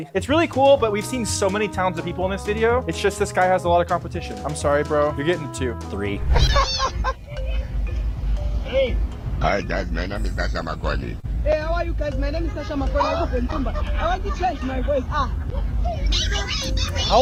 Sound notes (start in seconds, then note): 6.4 group laughing